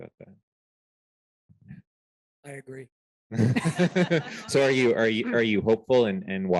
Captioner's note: laughter